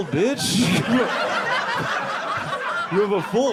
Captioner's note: audience laughing